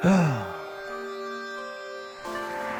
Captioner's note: person sighing; ambient music